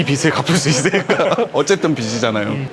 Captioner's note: laughs